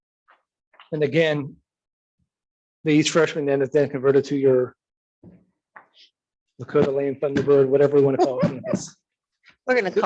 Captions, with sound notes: and again, these freshman are then converted to your (murmurs), Thunderbird, whatever you wanna call.